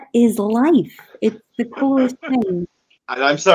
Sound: laughing

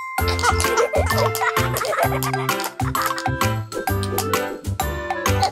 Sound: kids laughing and tapping

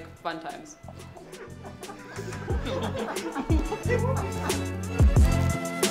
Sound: laughing

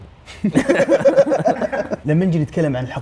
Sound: both laughing

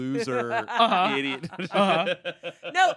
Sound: laughing

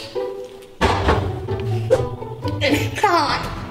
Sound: thumping

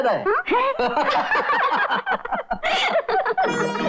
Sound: laughing

